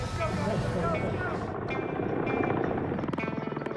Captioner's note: helicopter sound